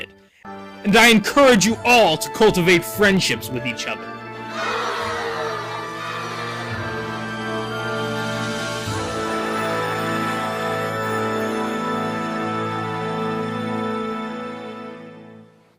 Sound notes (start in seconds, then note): 4.5 cheering